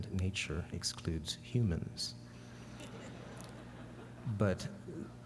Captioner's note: laughter